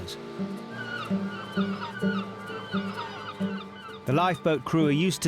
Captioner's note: birds squawking